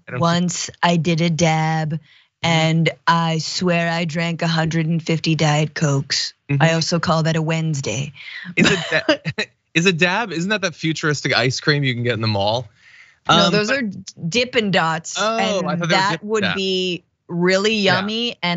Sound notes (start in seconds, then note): 8.4 laugh